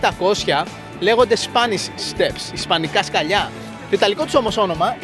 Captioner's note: explaining in greek